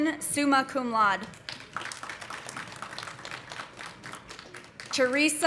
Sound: audience applauding

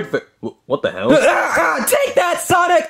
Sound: grunts

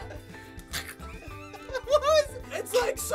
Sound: gagging; laughter

